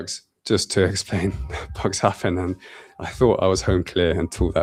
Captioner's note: laughs